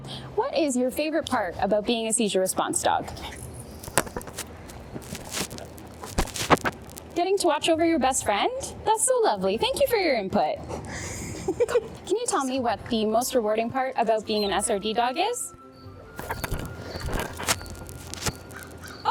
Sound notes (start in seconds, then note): 3.2 mic rustles; 10.8 giggles; 16.1 mic rustles